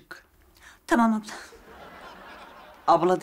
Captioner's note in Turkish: Gülme efekti